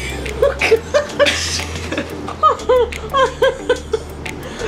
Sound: both laughing

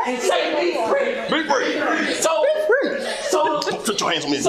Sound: crowd

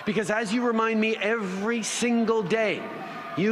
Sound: siren

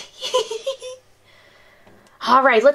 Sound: laughing

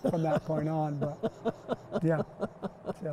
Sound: laughter

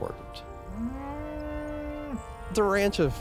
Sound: cow moos

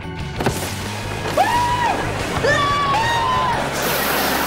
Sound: screaming

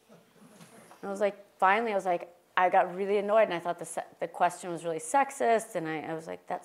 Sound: laugh

